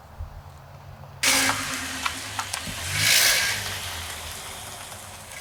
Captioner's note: engine rumbling